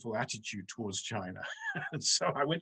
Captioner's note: chuckles